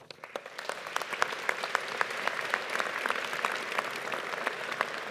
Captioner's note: audience applauding